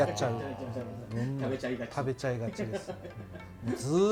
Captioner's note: laughs